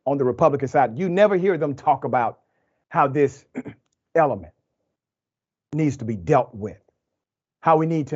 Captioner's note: cough